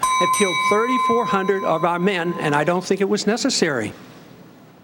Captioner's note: bell dings